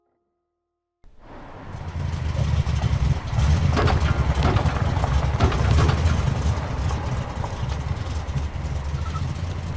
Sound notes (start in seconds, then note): 1.1 car enging sputtering; 2.3 morning birds chirping